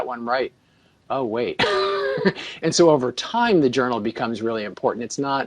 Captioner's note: laughs